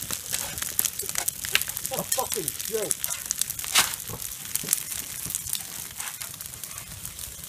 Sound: fire crackling

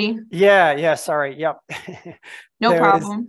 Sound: laughs

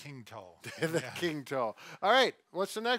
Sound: chuckling

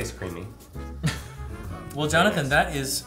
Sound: laughter

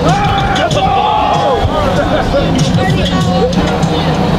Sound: excited yelling

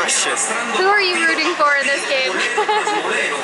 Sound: laughter

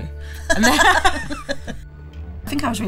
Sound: both laughing

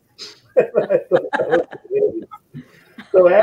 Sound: all laughing

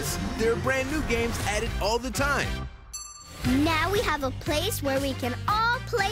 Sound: ding

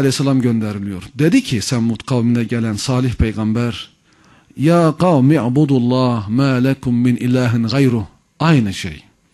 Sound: reciting the verse

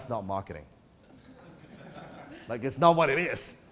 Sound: audience laughter

